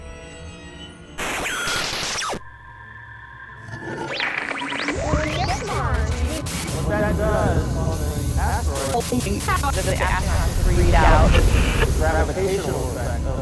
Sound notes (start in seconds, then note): 1.2 sound Effects